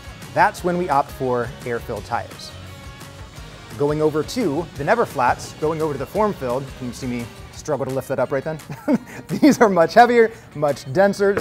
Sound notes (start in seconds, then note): 8.6 laughs